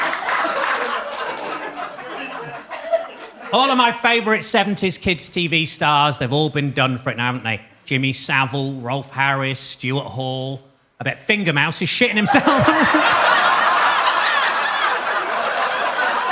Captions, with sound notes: All of my favorite '70s kids TV stars, they've all been done for it now, haven't they? Jimmy Savile, Rolf Harris, Stuart Hall. I bet Finger Mouse is shitting himself. (laughs) (audience laughs)